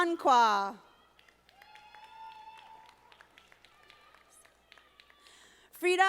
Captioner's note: audience applauding